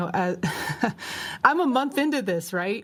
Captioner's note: laughs; laughter